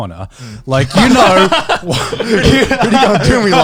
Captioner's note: all laughs